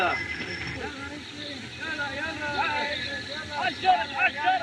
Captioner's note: men Chattering In Native Language